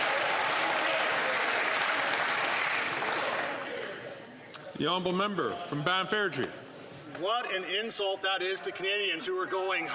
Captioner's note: some Applause